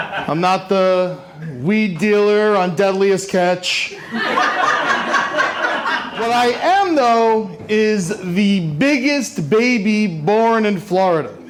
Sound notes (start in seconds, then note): 0.0 laughter; 3.9 laughter